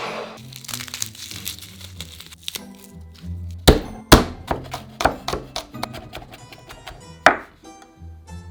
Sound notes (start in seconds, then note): 0.4 garlic paper rustling; 3.6 knife smashing garlic; 3.6 knife chopping